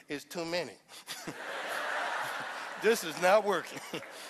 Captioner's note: laughter